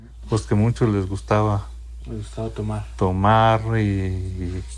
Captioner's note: speaking in foreign language